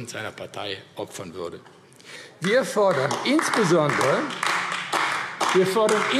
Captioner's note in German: Beifall AfD